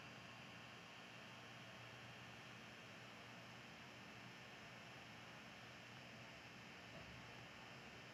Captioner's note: none